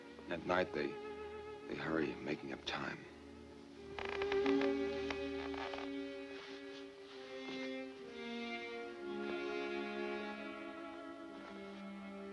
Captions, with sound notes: Then at night, they hurry at making up time. (floor creaking) (gentle music)